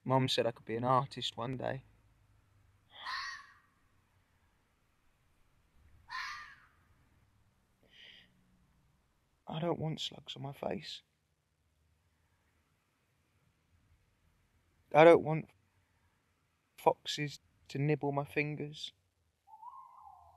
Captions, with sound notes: Mum said I could be an artist one day. (animal screeches) I don't want slugs on my face. I don't want foxes to nibble my fingers.